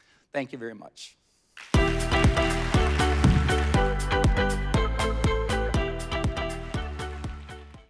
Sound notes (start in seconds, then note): 1.7 upbeat music; 1.8 audience applauding